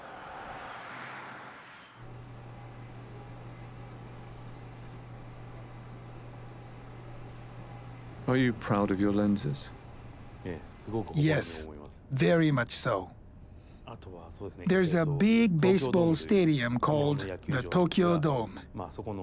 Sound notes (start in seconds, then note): 8.4 voiceover